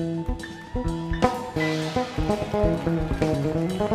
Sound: cheers

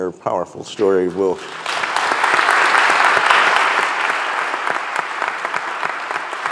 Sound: audience and panel applause

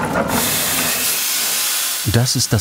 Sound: hiss

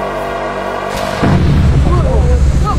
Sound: explosion sound

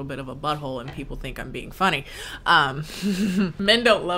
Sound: chuckles

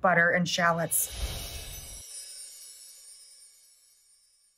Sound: twinkling

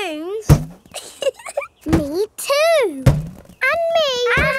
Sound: chuckles

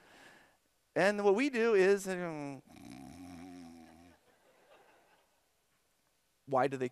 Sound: snoring; laughter

